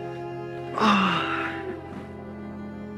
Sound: sigh

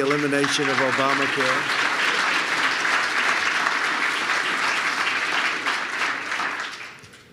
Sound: applause

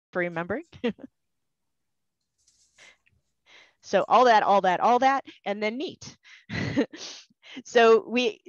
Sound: laughter

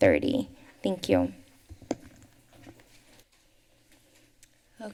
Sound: silence

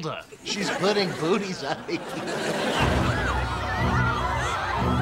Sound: <i>voice breaking

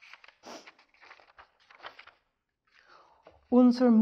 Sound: paper rustles

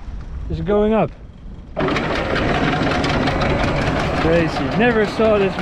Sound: engine Rumbling

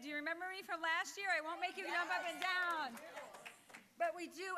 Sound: applause

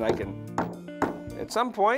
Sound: hammering sounds

